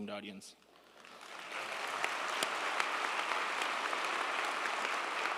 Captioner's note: crowd applauding